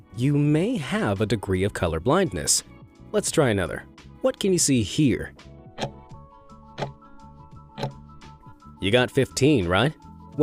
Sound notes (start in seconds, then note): 6.6 time ticking